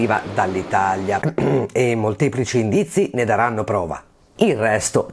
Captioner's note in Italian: ehm